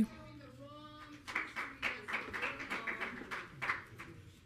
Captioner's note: audience clapping